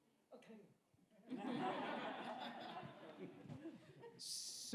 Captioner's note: audience laughs